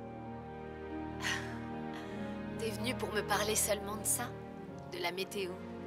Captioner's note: laughs